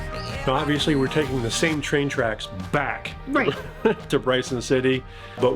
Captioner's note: chuckles